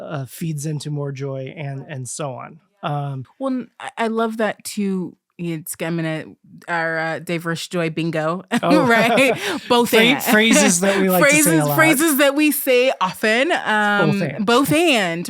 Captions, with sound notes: feeds into more joy and and so on. I love that, too. (Stammering) Our “Diverse Joy” bingo, right? (Both laughing) “Both/and.” Phrases that we like to say a lot. Phrases that we say often. Both/and.